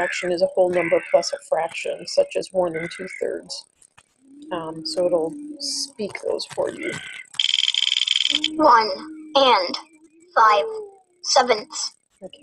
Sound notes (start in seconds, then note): 6.0 wheel clicking; 9.0 voiceover